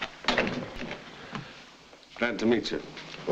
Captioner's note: door thuds shut